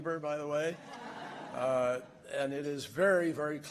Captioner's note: laughter